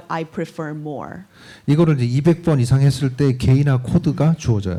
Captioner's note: speaking korean